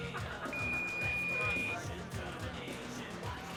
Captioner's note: beeping